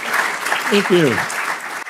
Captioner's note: applause